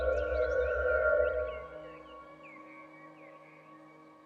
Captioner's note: birds Chirping